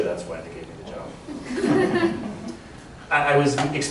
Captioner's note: laughter